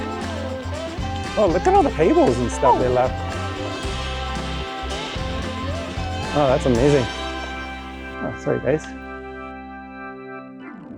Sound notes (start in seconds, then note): 7.5 birds flutter off